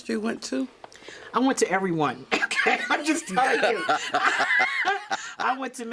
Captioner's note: both laugh